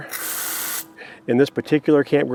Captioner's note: water hissing